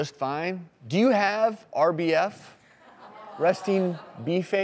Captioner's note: audience chuckles